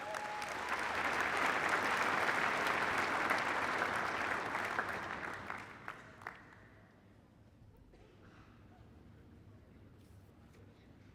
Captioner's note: applause